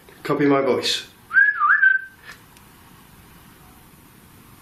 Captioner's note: whistling